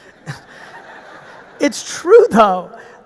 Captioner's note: audience laughing; laughs